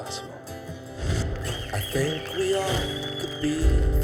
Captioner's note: applause